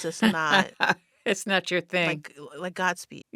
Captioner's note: laughter